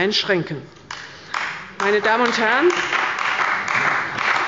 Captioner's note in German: Beifall bei der CDU und dem BÜNDNIS 90/DIE GRÜNEN